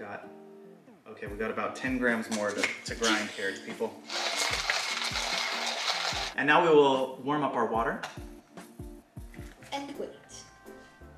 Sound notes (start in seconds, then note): 4.0 crepitating; 10.9 cool music